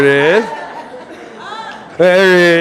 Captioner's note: audience laughing